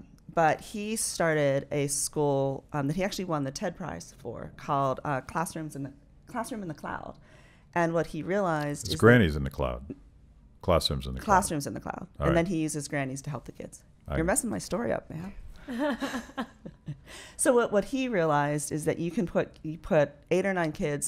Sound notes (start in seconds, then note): 15.8 laughing